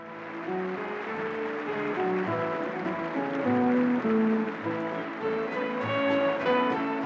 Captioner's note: applause, band playing